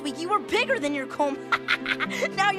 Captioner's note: laughs